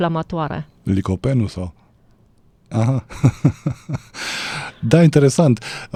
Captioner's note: laughter